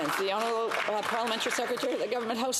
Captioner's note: some Applause